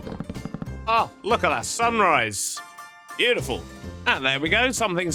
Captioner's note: block placement sounds